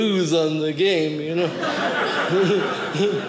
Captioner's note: audience laughing